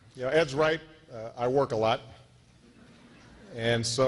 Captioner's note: laughter